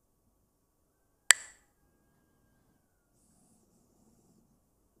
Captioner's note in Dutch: klakt met stokjes